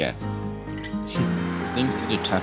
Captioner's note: chuckles